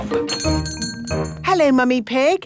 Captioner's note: doorbell chiming